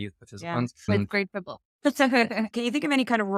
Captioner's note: laughs